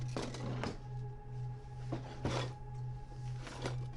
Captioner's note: metal clinging